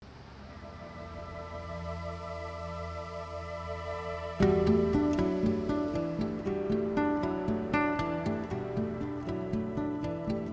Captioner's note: soft breeze